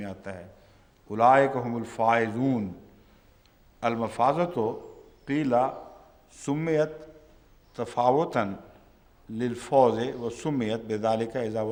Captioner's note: Arabic